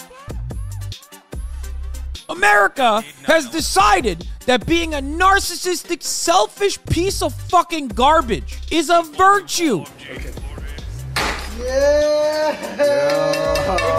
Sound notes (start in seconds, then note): 11.1 heavy thud